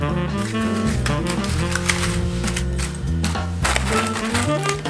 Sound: paper rustling

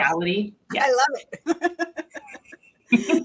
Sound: laughing

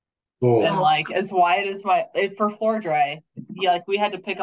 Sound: faintly speaking

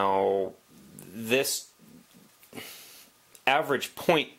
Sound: sigh

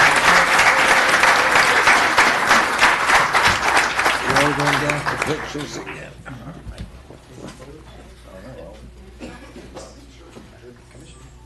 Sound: applause

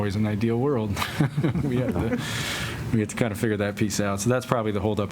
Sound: laughter

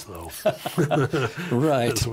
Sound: laughing

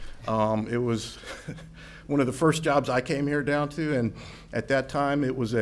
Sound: laughs

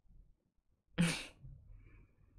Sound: chuckles

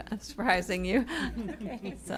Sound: laughter

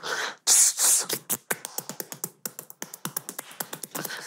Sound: beatboxing

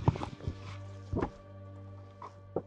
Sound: footsteps; knocking

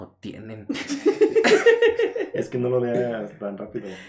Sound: laughter

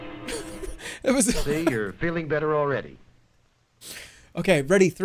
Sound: laughs

